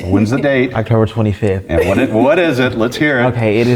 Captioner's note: laugh